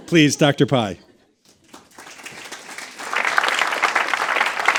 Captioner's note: audience clapping